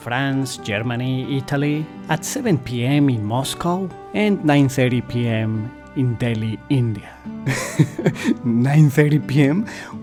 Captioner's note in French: rires